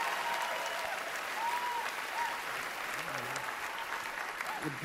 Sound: cheering, applause

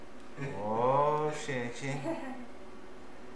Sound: laughs

